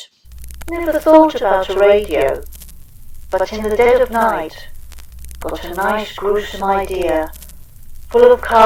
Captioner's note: background radio crackle and hiss